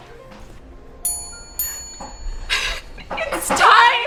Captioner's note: bell dings